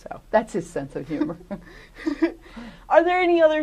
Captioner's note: laughter